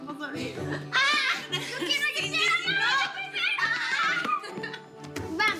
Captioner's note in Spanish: Gritos y exclamaciones